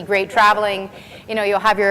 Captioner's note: laughs